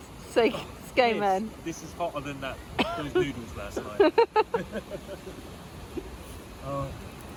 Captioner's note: both laugh